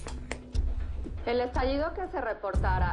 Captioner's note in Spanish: Voz en la T.V